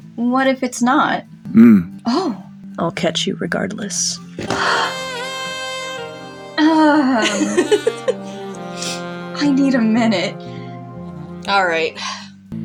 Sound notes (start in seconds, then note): 1.3 hums; 4.4 heavy Sigh; 7.7 clears Throat; 8.9 laugh